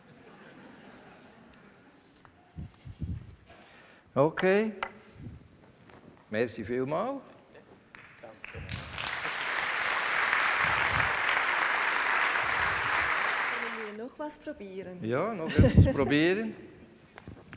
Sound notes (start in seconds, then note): 0.0 laughter from the audience; 7.9 applause